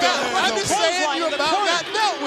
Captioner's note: crowd chatter